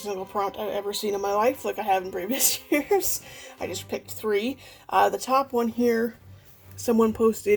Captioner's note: laughs